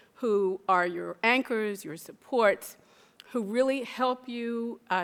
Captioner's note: none